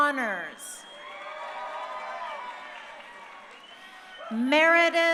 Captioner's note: crowd cheering